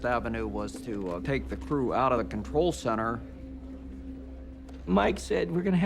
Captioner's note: none